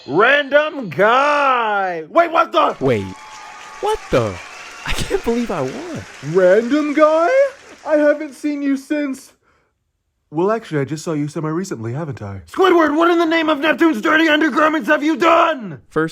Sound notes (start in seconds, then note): 2.6 audience cheers